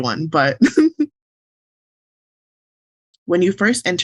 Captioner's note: chuckles